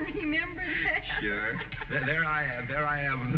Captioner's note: chuckles